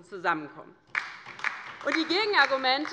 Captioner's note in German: Beifall bei der LINKEN